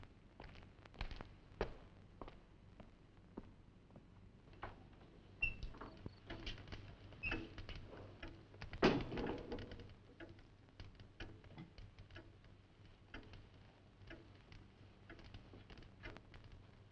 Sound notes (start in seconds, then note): 9.2 fire crackling; 10.9 clock ticking